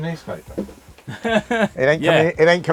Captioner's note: both laugh